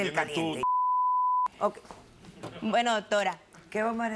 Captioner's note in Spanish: Bip